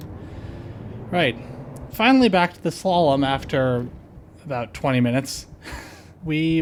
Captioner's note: laughter